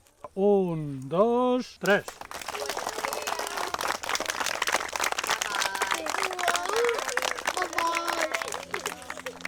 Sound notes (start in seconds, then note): 1.8 applause